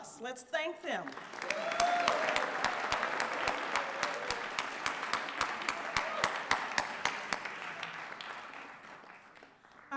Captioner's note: applause and Cheering